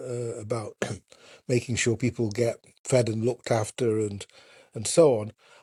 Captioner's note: coughs